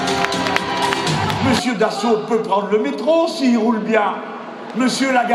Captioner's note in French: Rires du public